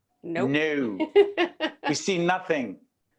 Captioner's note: laughing